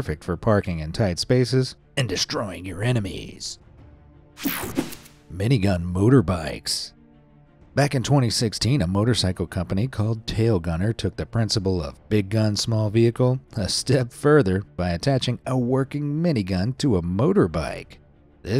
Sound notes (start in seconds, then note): 4.4 air whooshing